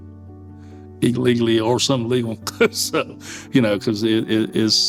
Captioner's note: laughs